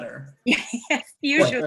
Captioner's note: laughs